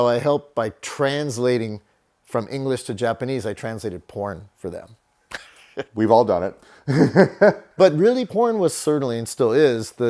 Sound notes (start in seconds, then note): 5.2 laughs